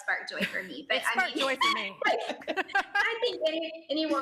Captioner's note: all laughing